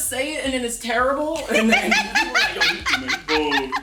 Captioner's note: laughing